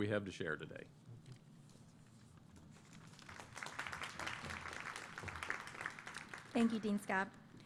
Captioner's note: applause